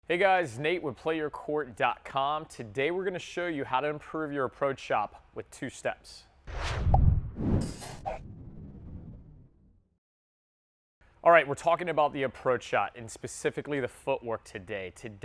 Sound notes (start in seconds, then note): 6.5 air whooshing